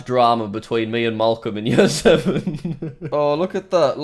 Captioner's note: laughs